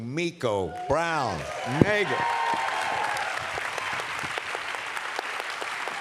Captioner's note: cheers, applause